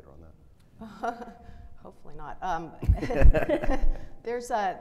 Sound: chuckles; laughing

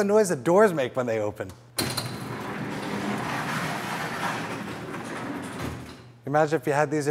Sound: loud sound of metal scraping

